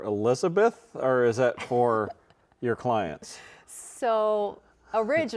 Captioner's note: chuckling